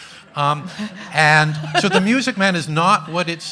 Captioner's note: everyone laughing